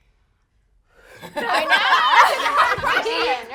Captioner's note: laughing